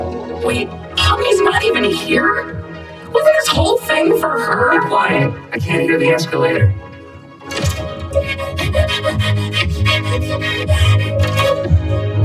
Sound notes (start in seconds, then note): 8.1 panting; 9.4 tense music plays; 12.0 gasps, whimpers